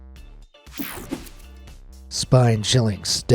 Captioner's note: screen whooshing